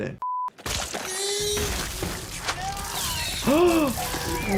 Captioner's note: body smashing; person yelling; gasps